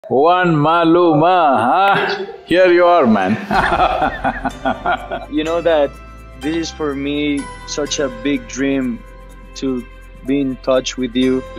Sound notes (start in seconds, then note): 3.1 laughs